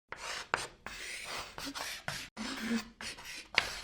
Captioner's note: chalk scraping